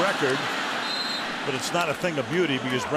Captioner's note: whistle